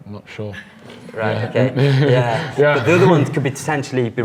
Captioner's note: giggles